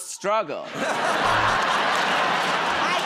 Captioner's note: laughter